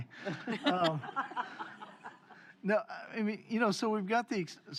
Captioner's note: laughter